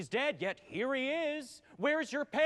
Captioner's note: none